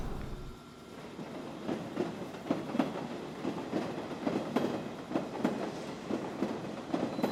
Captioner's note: train running